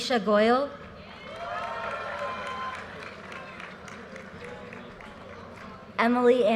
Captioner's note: audience cheers and applause